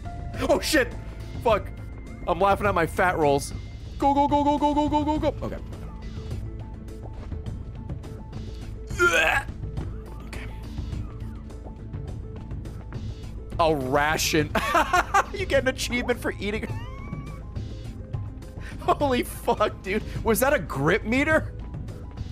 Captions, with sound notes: Oh shit, frick. I'm laughing at my fat rolls. Go go go go go go go go go, okay. (effort noise) Okay. A ration. (laughs) You get an achievement for eating? Holy frick dude, was that a grip meter?